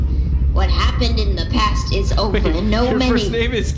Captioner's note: laughing